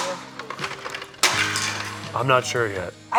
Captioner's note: Legos smashing